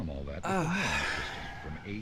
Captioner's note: person sighing